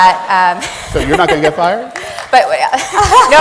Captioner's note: laughing